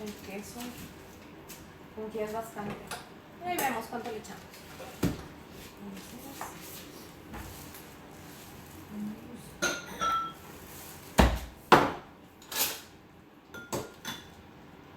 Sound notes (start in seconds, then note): 5.6 talking to herself